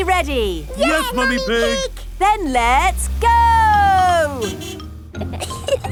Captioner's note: honking; giggling